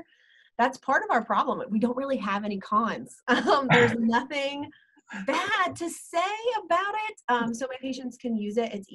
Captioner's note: laughter